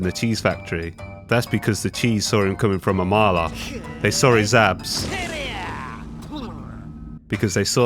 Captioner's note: Arataki Itto Sumo noises